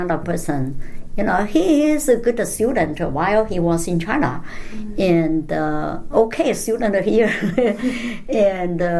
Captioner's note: laughs